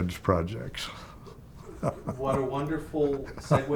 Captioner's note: chuckling